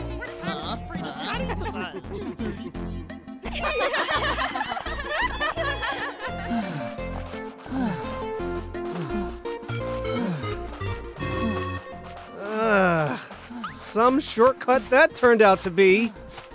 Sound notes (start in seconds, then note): 0.0 student chatter; 3.4 mocking laughter; 8.8 panting